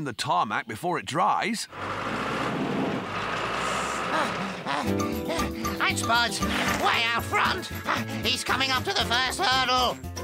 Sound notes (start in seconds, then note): 4.7 panting